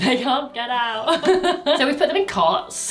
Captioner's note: laughs